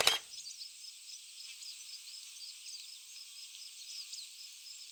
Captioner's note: shutter snapping